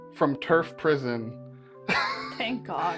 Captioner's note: laughs